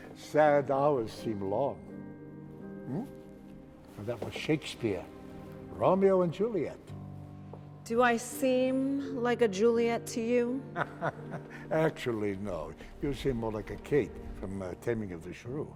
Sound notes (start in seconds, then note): 10.7 laughs